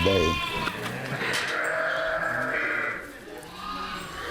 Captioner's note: lambs bleating